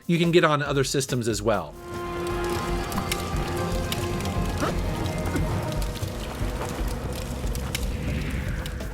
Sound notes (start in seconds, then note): 1.3 dramatic music; 1.8 crackles